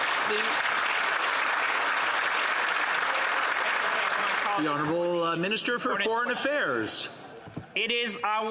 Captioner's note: some Applause